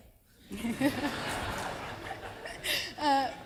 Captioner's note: laughter